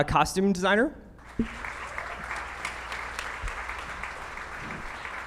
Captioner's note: audience clapping